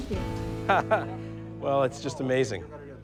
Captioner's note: laughs